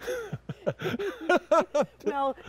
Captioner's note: both laughing